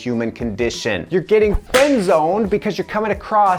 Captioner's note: whip cracks